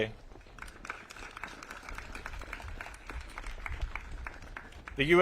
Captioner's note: audience claps